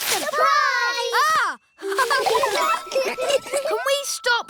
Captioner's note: gasps; all laughing